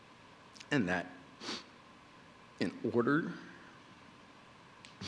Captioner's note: sniffling